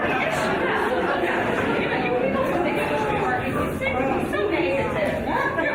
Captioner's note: audience chattering faintly